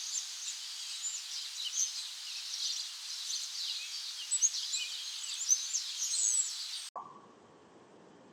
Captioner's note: birds chirping